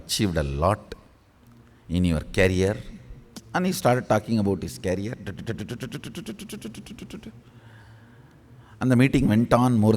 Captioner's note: Swamiji makes sound da da da da…